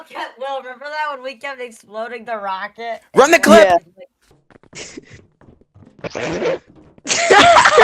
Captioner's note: laughter